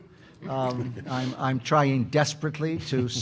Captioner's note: audience laughing